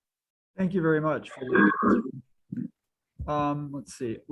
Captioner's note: mic feedback